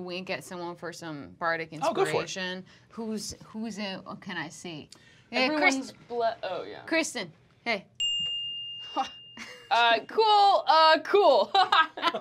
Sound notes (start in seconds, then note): 8.0 dings; 11.5 chuckles; 11.9 laughing